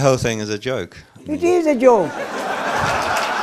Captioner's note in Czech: smích